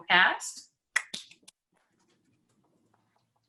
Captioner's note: clapping